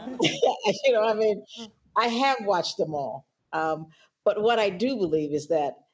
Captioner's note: laughter